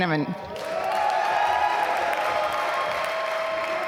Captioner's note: applause